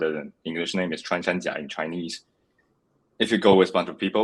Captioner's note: speaks foreign language